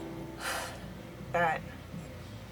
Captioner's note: deep sigh